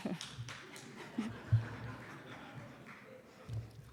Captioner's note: applause